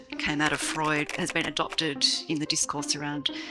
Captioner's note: typing